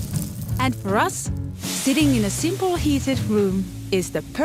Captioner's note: fire crackling; water hissing